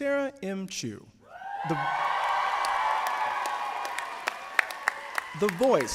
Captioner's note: audience cheering; audience applauding